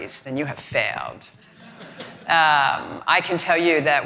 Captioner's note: audience laughing